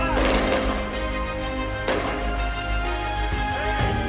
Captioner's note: guns firing